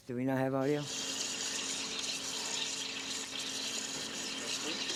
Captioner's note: sizzling